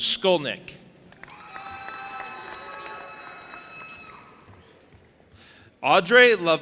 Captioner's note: audience applauding and cheering